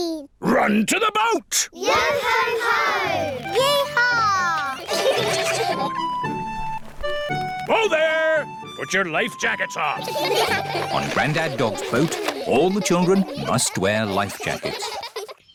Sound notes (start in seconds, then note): 4.7 all giggle; 10.0 all giggle